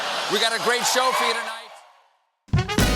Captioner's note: laughter